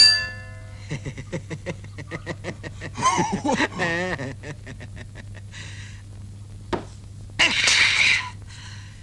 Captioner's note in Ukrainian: сміх